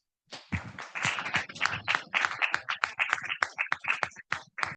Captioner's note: audience clapping